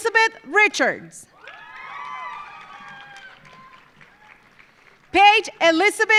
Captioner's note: audience cheering; audience applauding